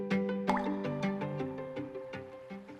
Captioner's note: water drop; calm river